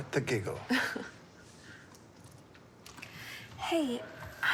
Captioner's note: Molly laughs